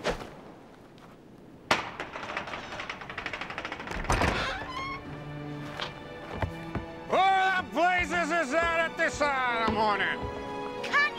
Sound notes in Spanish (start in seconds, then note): 3.8 puerta crujiendo